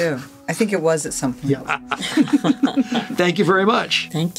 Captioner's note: all laughing